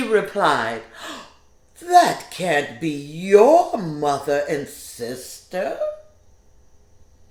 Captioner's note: gasps